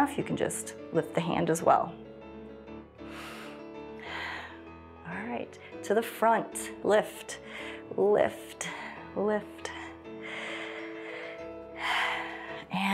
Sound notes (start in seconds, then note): 3.0 inhales and exhales; 10.2 inhales and exhales